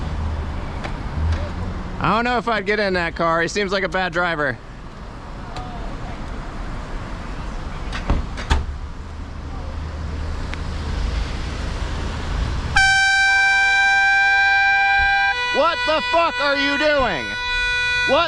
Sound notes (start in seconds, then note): 12.7 honk; 12.7 airhorn